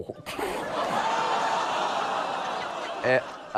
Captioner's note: laughter, clamouring